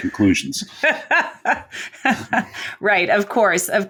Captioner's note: laughing